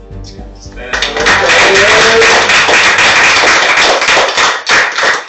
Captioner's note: cheers